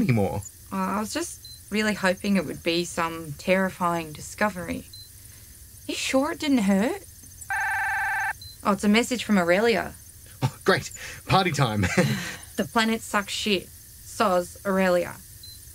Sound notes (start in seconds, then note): 7.4 message tone; 12.0 Mo SIGHS